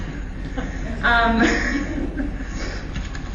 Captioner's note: laughter